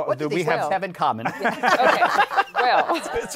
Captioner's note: laughter